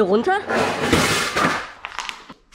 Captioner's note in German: krachen